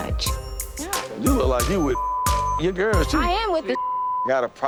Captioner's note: beep